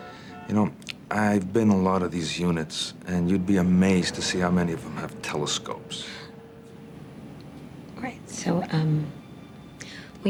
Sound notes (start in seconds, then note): 6.0 scoffs